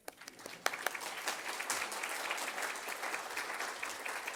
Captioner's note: audience applauds